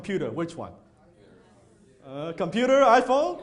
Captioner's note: audience chattering